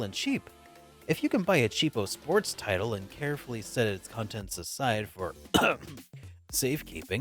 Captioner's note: cough